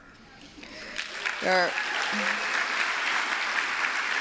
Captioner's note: applause